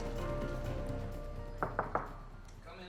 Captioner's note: knocks on door